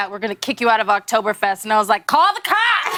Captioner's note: laughter